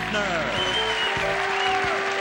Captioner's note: cheering